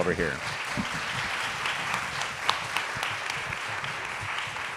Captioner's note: audience applauding